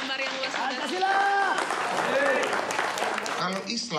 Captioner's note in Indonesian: tepuk tangan